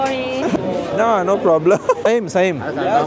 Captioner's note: laugh